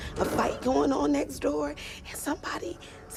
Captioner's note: whispering